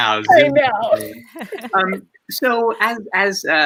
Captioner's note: laughs